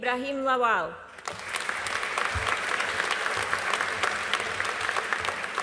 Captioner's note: audience applauding